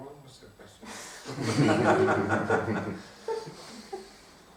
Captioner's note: hahaha